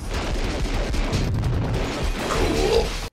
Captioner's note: gun fire; explosion